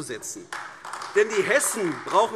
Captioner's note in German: Beifall AfD